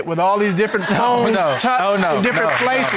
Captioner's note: audience laughing